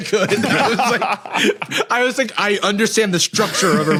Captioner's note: laughs